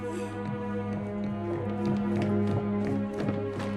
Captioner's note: shoes clacking